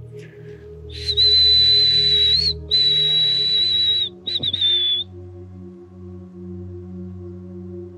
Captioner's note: whistling